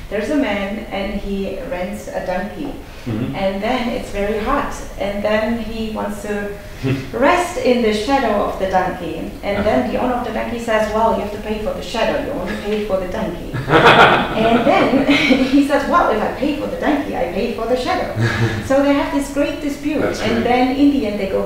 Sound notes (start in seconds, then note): 13.5 laughs